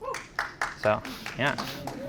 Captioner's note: audience applause